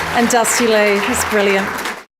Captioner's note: audience applause